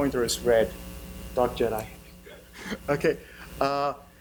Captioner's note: laughs